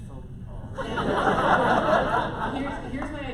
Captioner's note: laughter